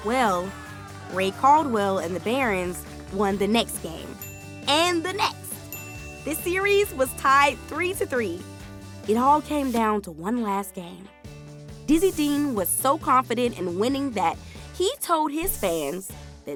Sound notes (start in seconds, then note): 4.1 bell dinging